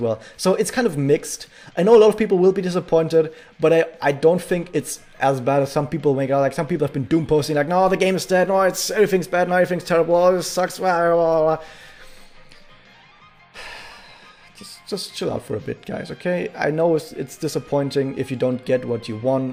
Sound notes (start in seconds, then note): 13.5 sigh